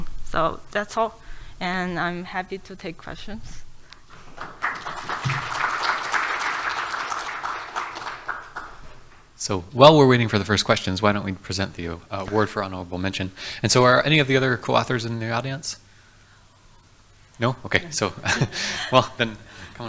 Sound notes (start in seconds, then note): 4.2 audience applauds; 18.2 laughs